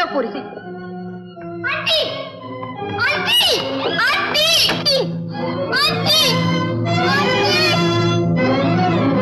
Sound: knocking

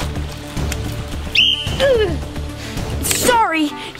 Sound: splash; whistle blowing

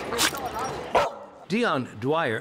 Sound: barks

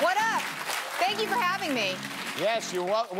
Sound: applause

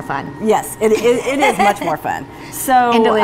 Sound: laughing

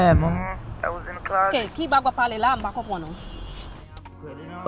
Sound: mom speaking in Creole

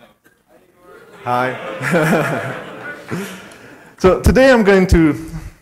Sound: laughs

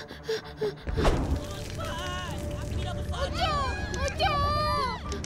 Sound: fire crackling

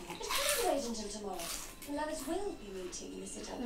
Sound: louder crunching

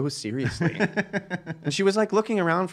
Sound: laughing

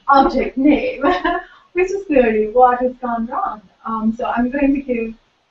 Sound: laugh

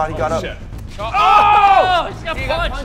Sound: the three of them collectively "Oh!" in despair

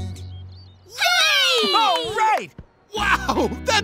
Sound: cheering

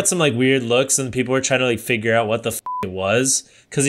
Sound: beep

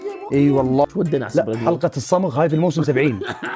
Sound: laughs

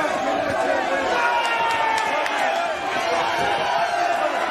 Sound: cheering

